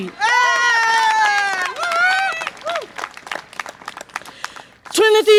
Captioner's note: audience applause and cheer